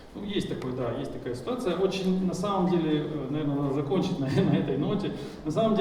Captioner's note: speaking in foreign language